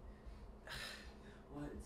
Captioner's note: sighs